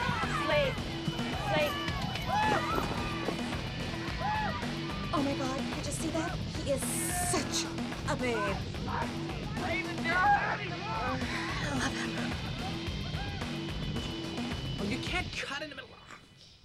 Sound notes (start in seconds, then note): 9.4 shouting